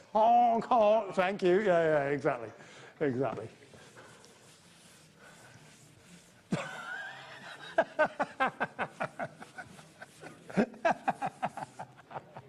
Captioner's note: laughs uncontrollably